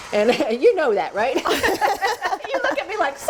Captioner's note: laughing